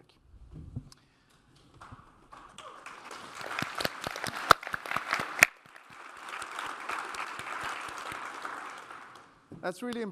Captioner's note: applause